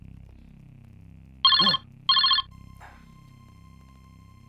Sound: phone ringing

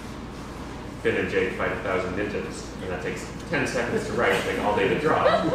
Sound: laughter

